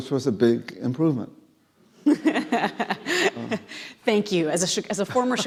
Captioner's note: laughing